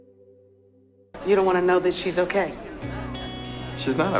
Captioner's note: voiceover